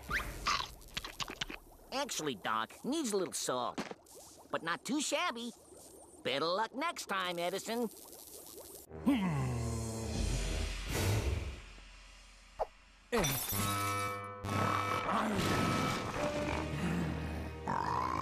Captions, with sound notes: [munching] ACTUALLY, DOC, IT NEEDS A LITTLE SALT, BUT NOT TOO SHABBY. BETTER LUCK NEXT TIME, EDISON. [grunting] [beeping] [growling]